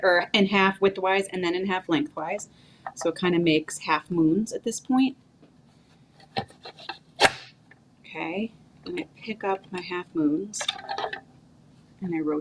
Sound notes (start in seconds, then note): 7.2 slicer chopping